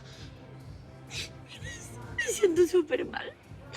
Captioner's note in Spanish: Sollozos